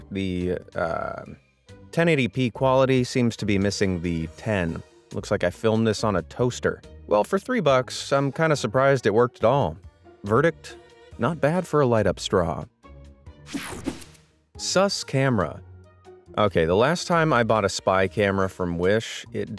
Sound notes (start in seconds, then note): 13.5 transition zapping